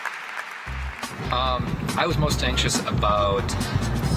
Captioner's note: applause